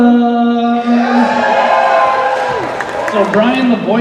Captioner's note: cheers and applause